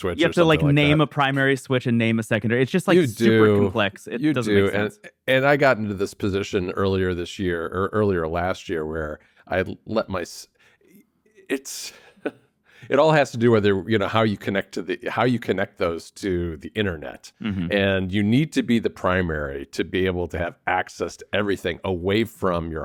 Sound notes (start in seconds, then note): 11.3 laughs